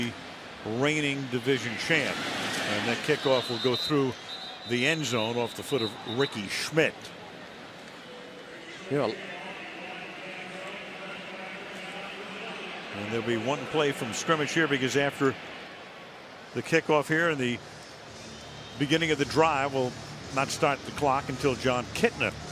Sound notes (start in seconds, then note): 9.9 pa announcement